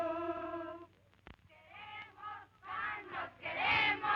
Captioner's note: chanting